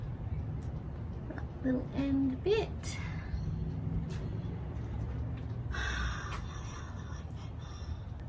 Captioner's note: sighs; in loud sighing whisper